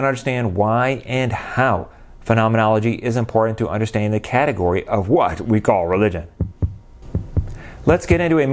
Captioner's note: beating heart